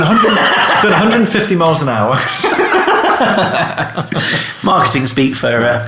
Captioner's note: laughing